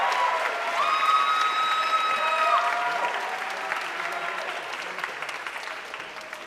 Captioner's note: audience cheering and applauding